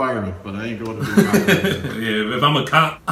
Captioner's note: laughing drowns out speaker